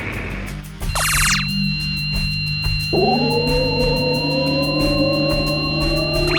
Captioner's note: portal beep; box engines whine